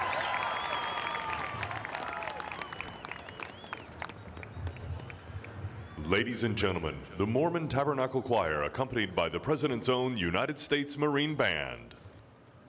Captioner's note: cheering